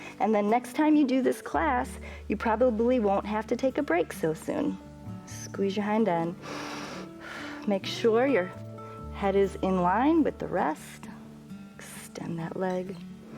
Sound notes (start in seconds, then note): 6.4 inhales